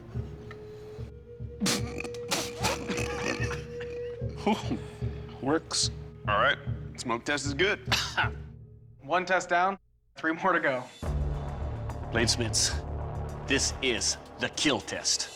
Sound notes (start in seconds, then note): 1.6 coughs